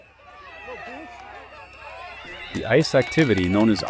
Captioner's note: crowd shouting